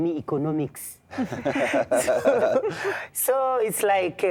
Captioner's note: laughter